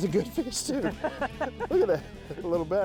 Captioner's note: laughs